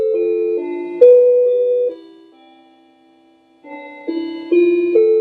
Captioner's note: clock chiming